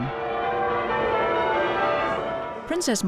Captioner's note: bells ringing